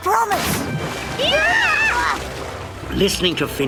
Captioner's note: Piggley, Dannan, Ferny startled exclaiming